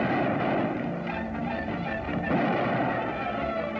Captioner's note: gunshots